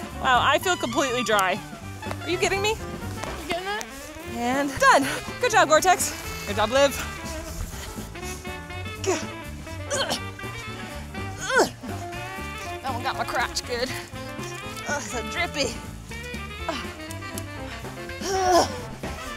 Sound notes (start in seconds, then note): 7.2 energetic music continues; 11.4 grunts; 18.2 grunts